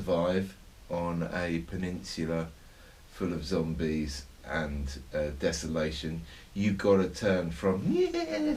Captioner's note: whimpering sound changing to growl